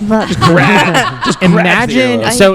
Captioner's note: laugh